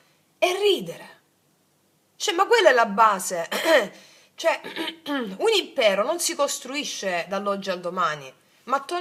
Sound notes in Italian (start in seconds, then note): 4.7 schiarire la voce